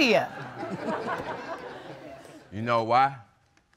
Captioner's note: all laughing